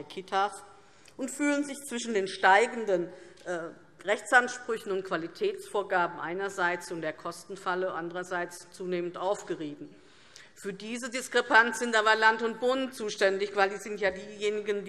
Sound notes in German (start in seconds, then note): none